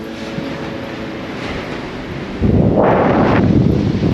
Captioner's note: wind fluttering